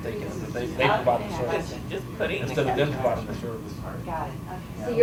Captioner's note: people talking